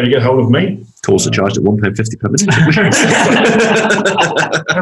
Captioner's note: all laugh